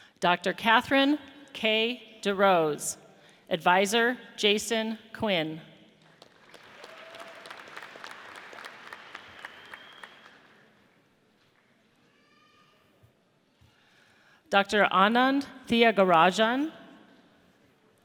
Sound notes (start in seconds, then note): 6.7 audience cheers